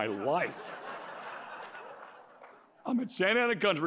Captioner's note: laughter